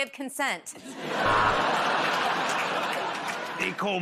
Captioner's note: buzzer buzzes